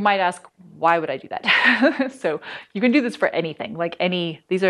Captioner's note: laughter